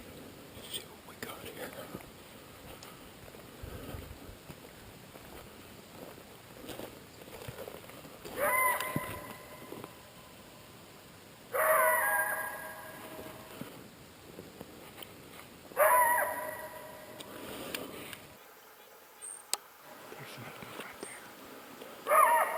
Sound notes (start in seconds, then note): 0.2 whispering; 8.3 coyote’s yelp